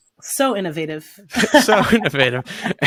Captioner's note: laughs